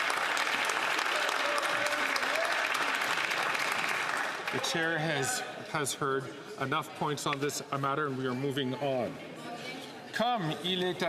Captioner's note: some Applause